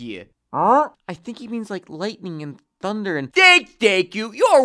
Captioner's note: whispering